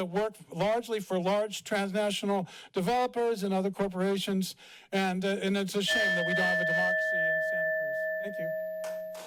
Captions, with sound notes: that work largely for large transnational developers and other corporations. And, uh, and it's a shame [bell dings] that we don't have a democracy in Santa Cruz. Thank you.